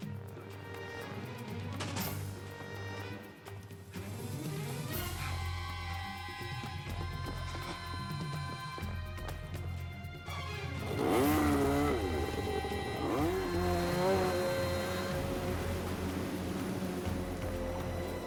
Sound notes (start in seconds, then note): 10.8 engine revs